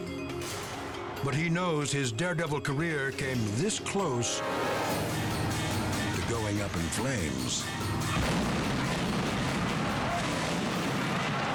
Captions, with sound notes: But he knows his daredevil career came this close to going up in flames. (explodes)